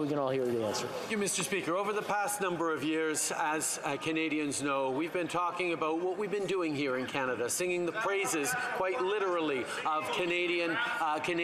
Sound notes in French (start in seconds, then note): 6.5 voix de l'interprète